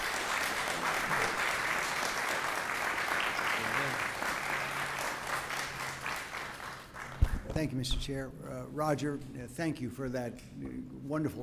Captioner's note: applause